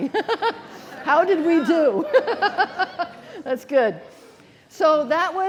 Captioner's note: laughing